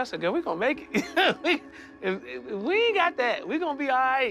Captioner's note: laughs